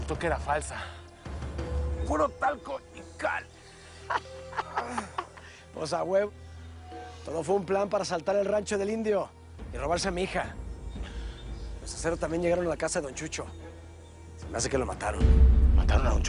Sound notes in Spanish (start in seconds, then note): 4.0 Risas; 6.1 Quejidos